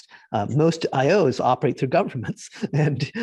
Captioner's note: giggling